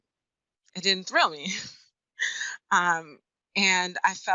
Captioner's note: laughs